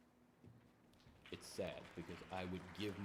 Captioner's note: audience applauding